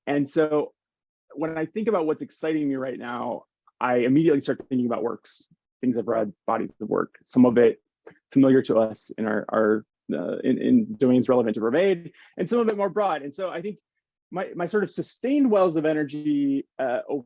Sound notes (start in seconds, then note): 12.5 hands clapping